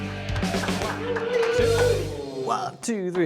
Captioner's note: cheering